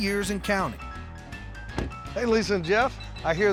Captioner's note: door closes